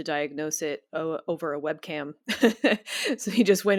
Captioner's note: chuckles